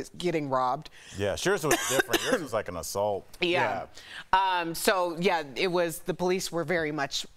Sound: coughing

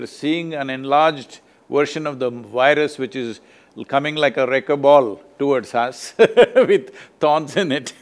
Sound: laughs

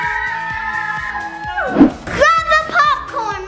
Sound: screams

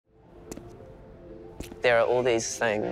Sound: footsteps

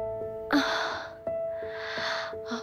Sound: sighs

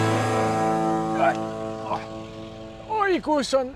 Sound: fat guy noises

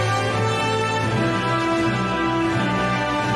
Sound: applause

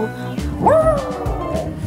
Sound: dog howling

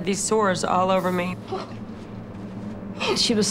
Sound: moaning

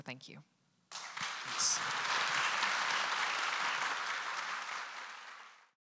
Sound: audience applauding

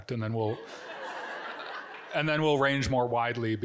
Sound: audience giggling

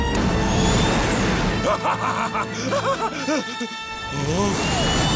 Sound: laughing

